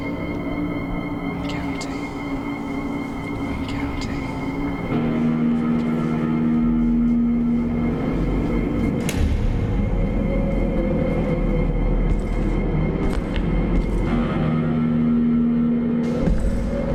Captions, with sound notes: I'm counting, I'm counting. (ominous music) (gear clanks) (ominous music)